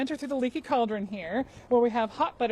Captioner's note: none